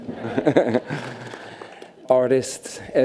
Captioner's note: laughs